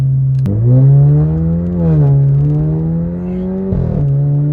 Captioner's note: engine revving